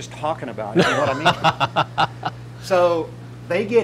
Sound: laughing

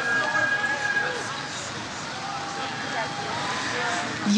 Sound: audience cheers

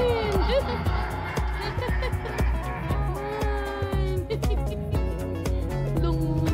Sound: laughing

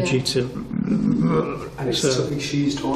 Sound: growls

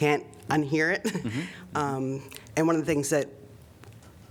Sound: laughter

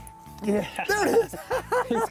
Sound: both laughing

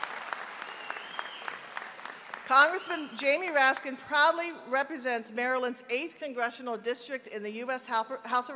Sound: applause

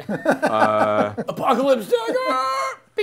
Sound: laughing

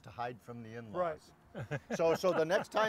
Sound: laughing

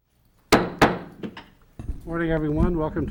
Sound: gavel pounding

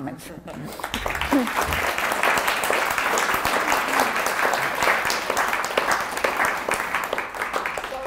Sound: applause

